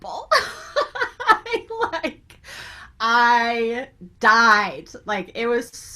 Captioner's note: laughs